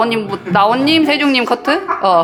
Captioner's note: engineers start to giggle